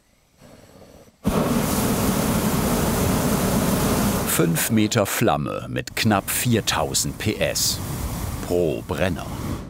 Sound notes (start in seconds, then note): 1.2 roaring starts again